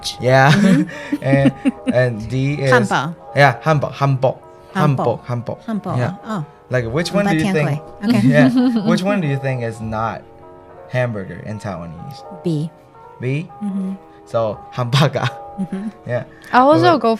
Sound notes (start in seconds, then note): 2.9 Mandarin; 4.6 Taiwanese; 8.8 Taiwanese